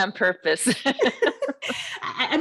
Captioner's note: laughs